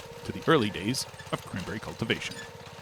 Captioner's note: none